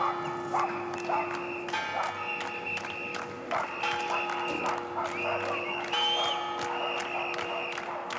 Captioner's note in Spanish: palmas, silbatos